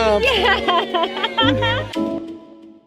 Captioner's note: laughs; bright music